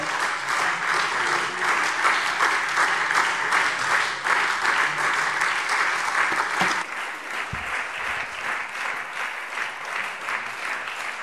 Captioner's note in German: Anhaltender Beifall SPD und Freie Demokraten